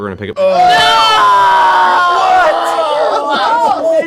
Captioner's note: yelling